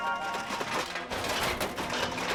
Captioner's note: metal clanging